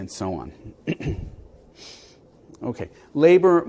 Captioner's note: cough